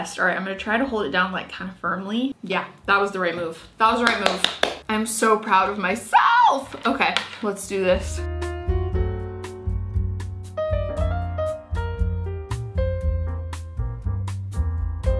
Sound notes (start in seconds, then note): 4.0 clapping; 7.8 gentle music